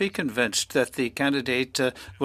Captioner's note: speaking French